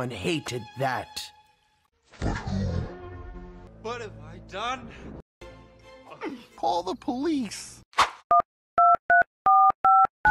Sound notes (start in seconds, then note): 2.1 distorted Voice; 9.8 telephone Beeping